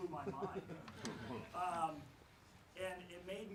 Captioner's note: laughs